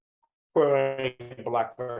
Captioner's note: audio distortion